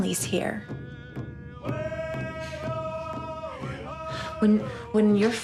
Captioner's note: drums beating; voices chant